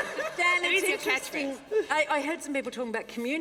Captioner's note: laughter